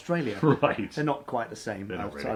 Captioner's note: chuckles